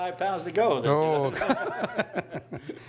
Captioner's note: laughter